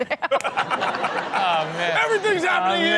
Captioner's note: all laugh